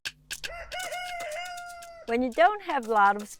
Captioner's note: cock crowing